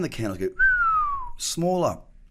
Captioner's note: whistles